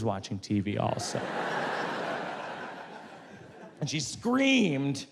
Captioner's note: audience laughs